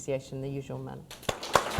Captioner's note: applause